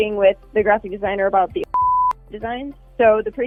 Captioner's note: beep